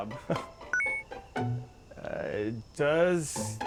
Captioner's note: bonus point chimes